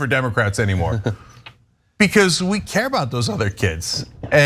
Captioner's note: laugh